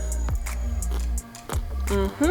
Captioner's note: food crunching